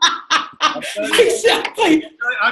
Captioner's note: laughter